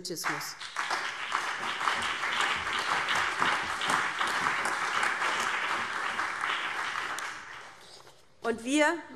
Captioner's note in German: Allgemeiner Beifall